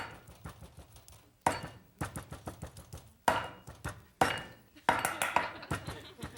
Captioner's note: pounding in a musical rhythm; audience laughing